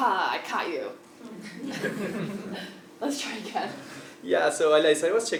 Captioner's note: laugh